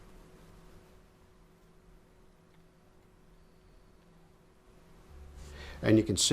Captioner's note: silence